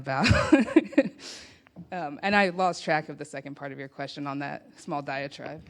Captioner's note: laughs